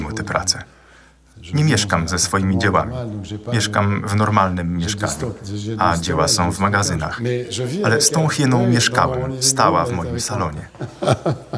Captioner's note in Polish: śmiech